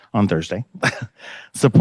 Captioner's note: chuckles